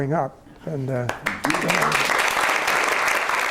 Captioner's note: applause